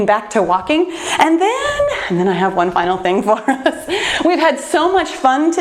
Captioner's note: laughs